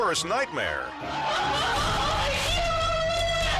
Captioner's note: mom wailing